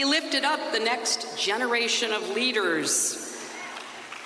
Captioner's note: applause